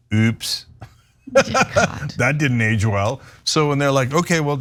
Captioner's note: laugh